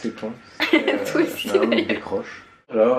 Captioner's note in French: rires